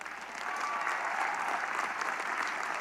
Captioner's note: applause, cheering